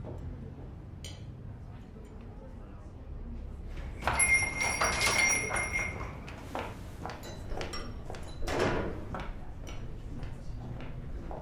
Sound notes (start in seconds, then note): 4.0 doorbell jingles; 8.0 footsteps; 8.4 door closes